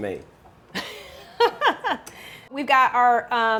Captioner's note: chuckles